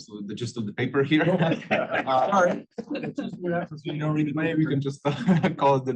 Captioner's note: laugh